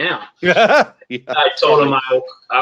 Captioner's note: laughs